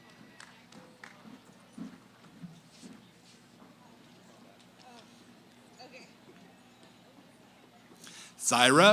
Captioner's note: cheering; background conversations